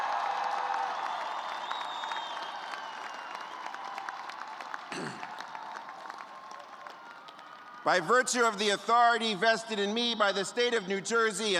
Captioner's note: cheers and applause